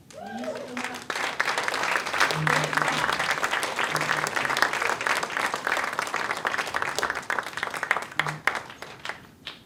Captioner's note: applause